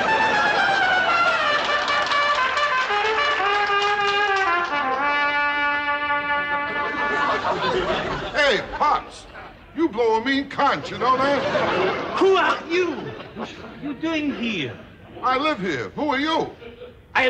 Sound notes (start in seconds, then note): 6.4 laughter and applause